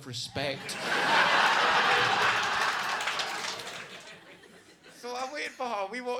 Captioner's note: audience laughing and clapping